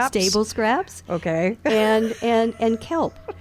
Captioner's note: laughs